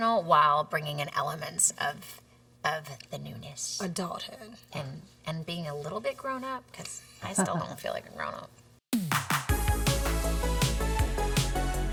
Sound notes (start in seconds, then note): 7.3 laughs; 9.0 upbeat music